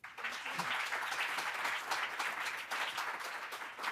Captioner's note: audience applauding